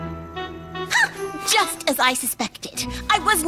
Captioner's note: gasps